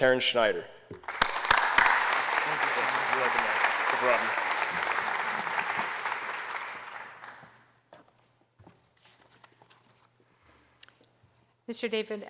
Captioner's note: applause